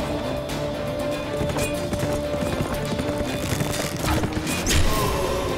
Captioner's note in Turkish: At nalı sesleri